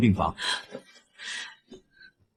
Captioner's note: exhales